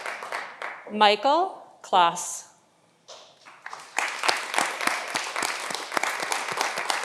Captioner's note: audience applauding